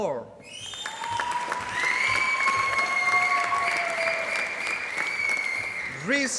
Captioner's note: applause